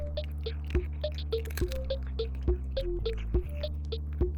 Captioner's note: Cauliflower crunching on a treat